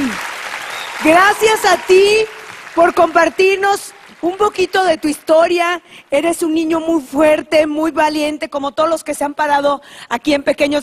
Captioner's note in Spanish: aplausos